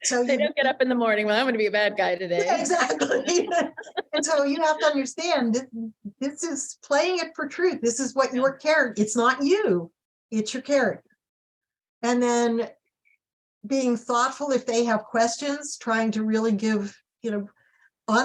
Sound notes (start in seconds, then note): 1.5 laughing; 2.4 both laughing